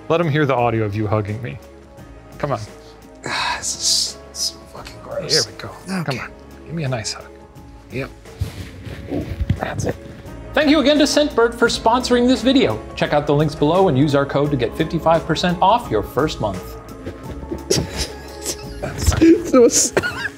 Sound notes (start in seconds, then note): 8.4 leather squishing; 17.5 laughing